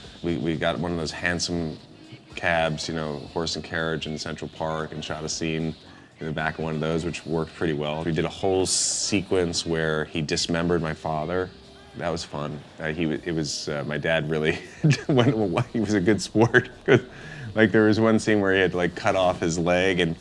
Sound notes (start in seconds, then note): 17.1 laughs